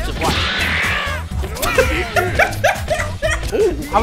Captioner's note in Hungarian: Nevetés